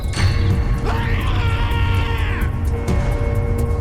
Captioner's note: loud Screaming